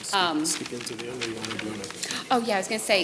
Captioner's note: mutters